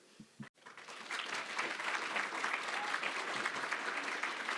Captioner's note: applause